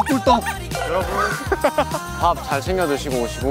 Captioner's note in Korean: 저항없이 터지는 웃음